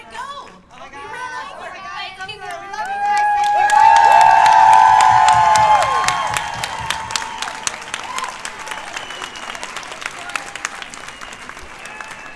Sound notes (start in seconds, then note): 2.4 cheers and applause